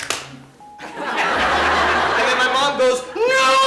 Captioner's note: audience laughing